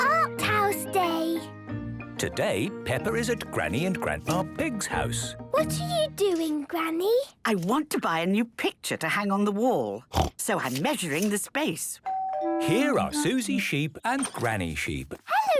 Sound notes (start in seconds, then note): 10.0 snorting; 12.0 doorbell ringing